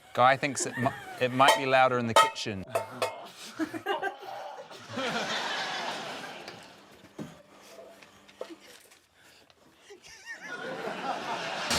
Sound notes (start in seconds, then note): 2.7 pots clang softly; 3.6 laughs; 3.6 david grunts softly; 10.0 wheezes